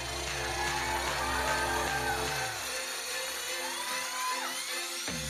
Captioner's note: audience cheering